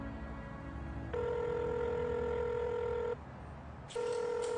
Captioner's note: phone ringing